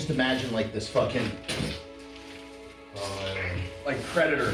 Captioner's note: makes gross noises with mouth